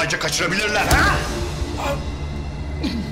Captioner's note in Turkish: İnleme sesi